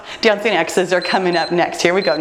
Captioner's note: timer beeps